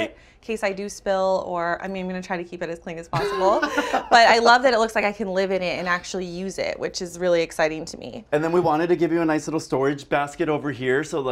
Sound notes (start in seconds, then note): 3.1 laughs